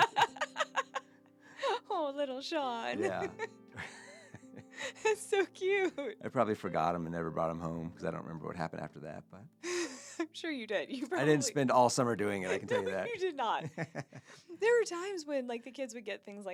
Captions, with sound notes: (laughing) Oh, little Sean. Yeah. That's so cute. I probably forgot him and never brought him home because I don't remember what happened after that. I'm sure you did. I didn't spend all summer doing it. I can tell you that. I don't think you did not. There were times when like the kids would get things